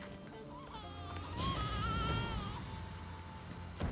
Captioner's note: baby cry